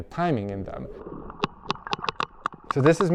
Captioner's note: whale clicking